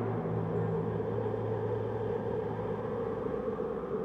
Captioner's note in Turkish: Rüzgâr sesi